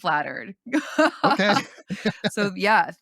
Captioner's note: laughs